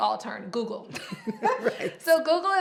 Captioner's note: both laughing